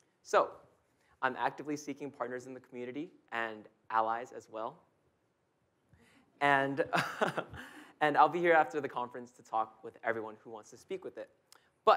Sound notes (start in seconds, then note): 5.1 audience chuckling; 6.8 chuckles